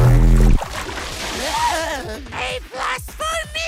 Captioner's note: gasp for air